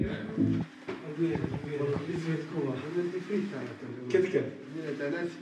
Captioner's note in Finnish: Vaimeaa keskustelua